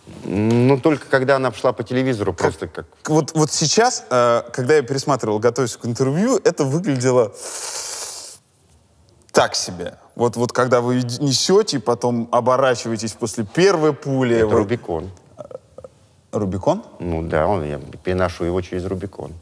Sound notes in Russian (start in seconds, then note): 7.3 шумно втягивает ртом воздух